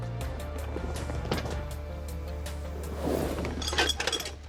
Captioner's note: tense music; objects clattering